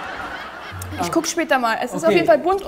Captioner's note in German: Lachen